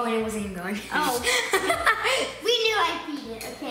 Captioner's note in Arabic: يضحك